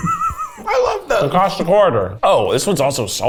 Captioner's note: laughing